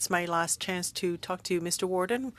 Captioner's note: speaking French